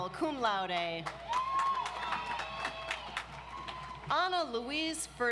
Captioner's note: audience applauds